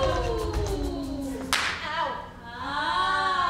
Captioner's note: hand smacks